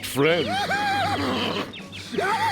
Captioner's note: laughing